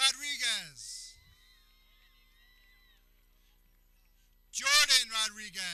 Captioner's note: people cheering